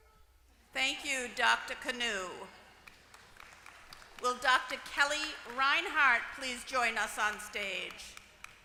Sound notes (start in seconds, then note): 2.5 applause